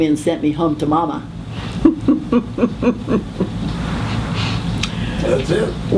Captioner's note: laughing